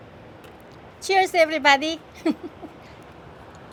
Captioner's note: laughs